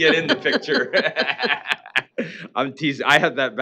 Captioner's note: laughter